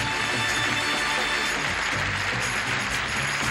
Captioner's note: applause